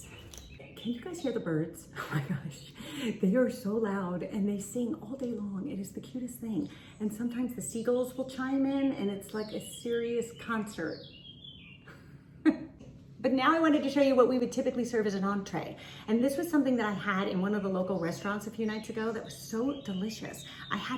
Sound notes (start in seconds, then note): 0.0 birds chirping; 11.2 birds chirping; 12.4 laughs